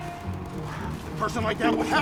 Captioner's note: sighs